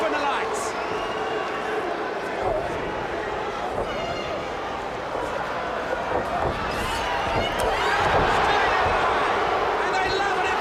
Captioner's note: crowd cheering